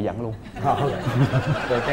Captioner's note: laughing